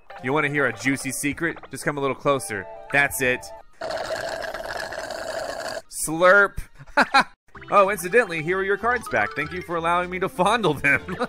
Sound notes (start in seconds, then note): 3.8 slurping; 7.0 laughs